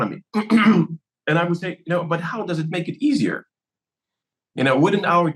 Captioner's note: cough